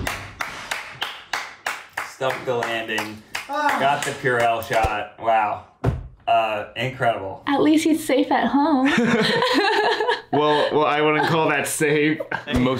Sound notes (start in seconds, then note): 0.0 claps; 8.8 both laugh